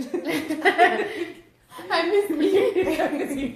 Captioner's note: laughs